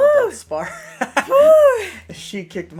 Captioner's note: laughter